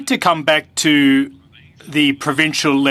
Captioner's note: speaking French